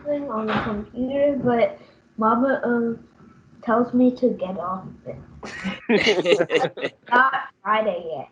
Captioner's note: laughter